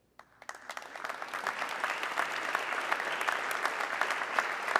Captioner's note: audience clapping